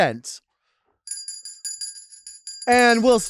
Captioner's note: bell dinging